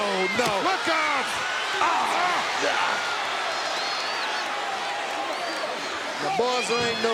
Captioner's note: applause